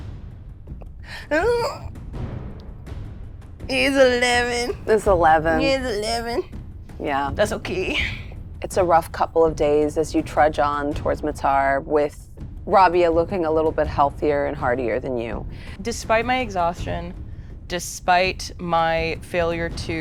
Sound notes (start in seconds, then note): 1.0 Mayanna gasps